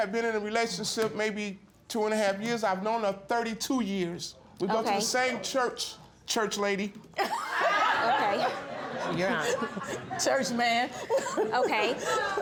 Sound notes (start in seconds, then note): 7.2 all laughing; 11.6 giggles